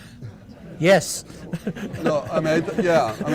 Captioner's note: laughs; audience laughing